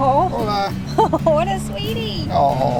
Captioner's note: giggles